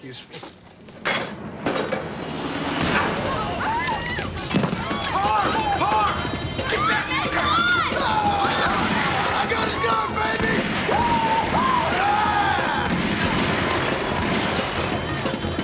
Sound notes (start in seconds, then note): 1.1 clattering; 1.3 gunshot; 4.2 diners screaming; 7.6 clamoring voices